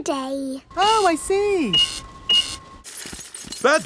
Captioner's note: cash register beeping